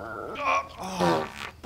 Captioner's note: pfffpt